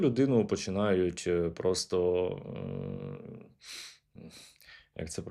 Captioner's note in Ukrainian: сопіння